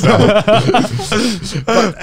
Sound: everyone laughs

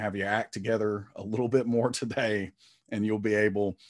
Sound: chuckling

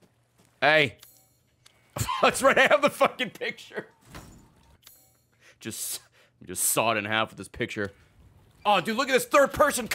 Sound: laughs

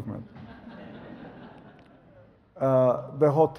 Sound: audience laughs

